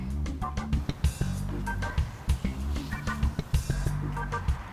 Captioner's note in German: Messer hacken